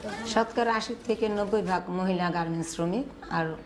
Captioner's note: non-english speech